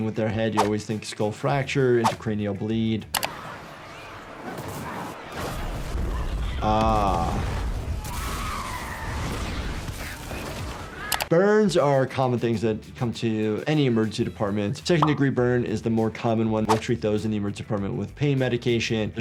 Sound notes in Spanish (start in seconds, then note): 2.9 fuego ardiendo; 8.0 gritos infectados